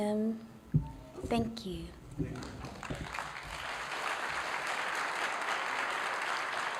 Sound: applause

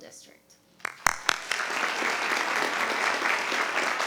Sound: applause

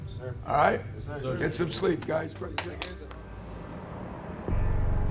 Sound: claps hands; dramatic music

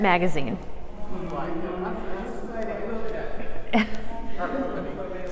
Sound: excited chatter

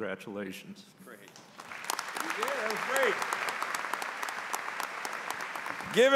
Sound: applause

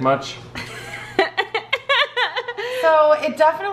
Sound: laughing

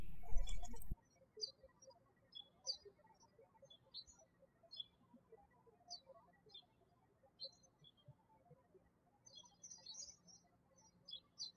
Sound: birds chirping

